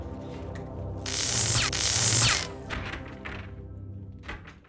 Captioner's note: zapping